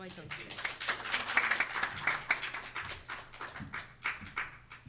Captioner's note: audience clapping